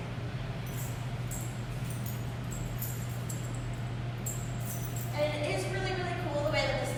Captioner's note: keys jingling